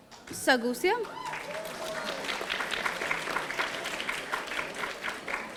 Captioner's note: audience applauding